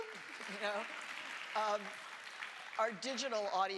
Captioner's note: audience applauds